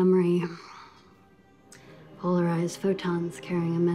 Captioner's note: sighs